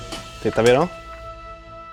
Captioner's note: talking in Swedish